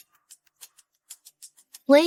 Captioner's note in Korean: 음소거